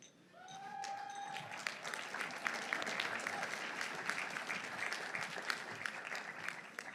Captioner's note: audience cheering; audience applauding